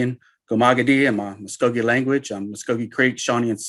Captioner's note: speaking foreign language